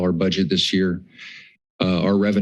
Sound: pause

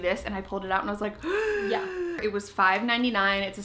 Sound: gasps

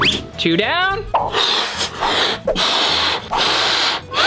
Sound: air blowing

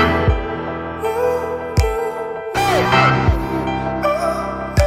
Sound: vocalizing continues

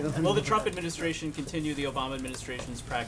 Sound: laughter

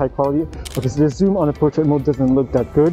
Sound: camera clicking

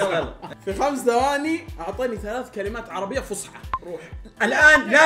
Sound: old Arabic

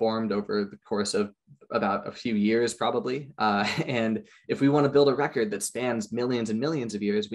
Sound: chuckles

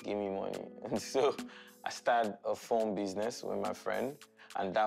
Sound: chuckles

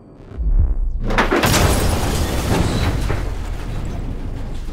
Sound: loud crash

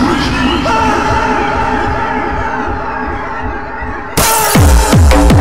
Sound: screams

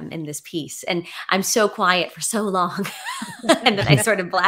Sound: laughs

